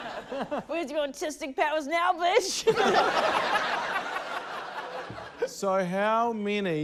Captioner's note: laughter; laughter